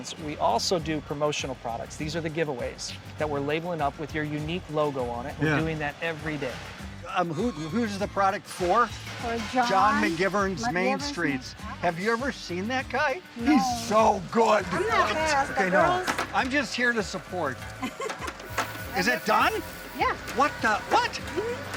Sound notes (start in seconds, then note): 17.8 worker laughs